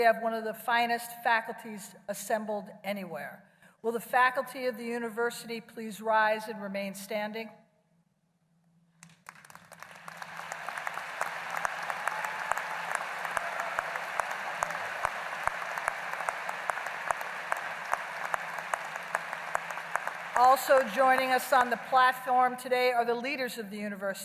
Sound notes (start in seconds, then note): 9.0 applause